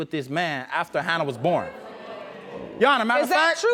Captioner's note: audience murmurs disapproval